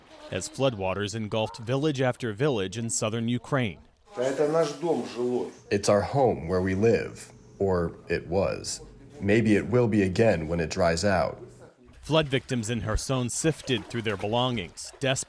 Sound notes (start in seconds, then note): 5.2 through translator